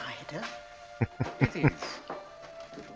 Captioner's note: chuckling